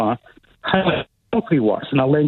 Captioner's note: technical feedback disrupts speaker